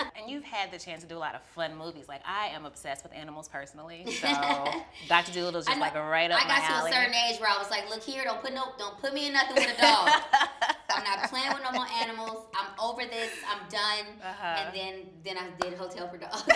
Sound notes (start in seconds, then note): 9.6 laughs